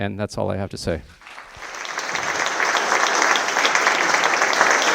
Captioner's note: audience applauds